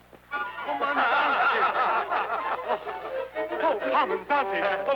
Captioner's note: guards laughter